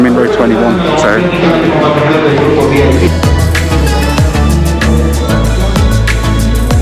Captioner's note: announcement in foreign language